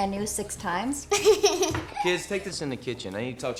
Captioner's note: Tara giggling